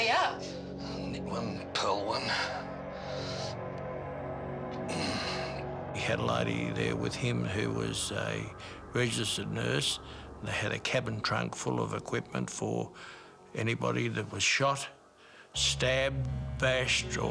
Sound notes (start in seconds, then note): 4.8 groans